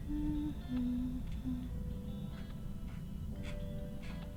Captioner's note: humming